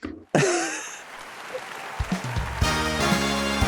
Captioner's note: audience applauding; both chuckling; lively music; audience applauding